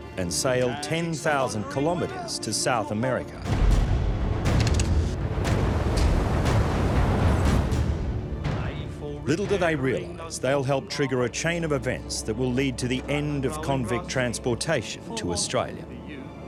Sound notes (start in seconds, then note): 3.3 ominous music; 4.5 gun cocking; 4.9 waves crashing